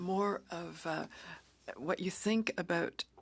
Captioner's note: speaking French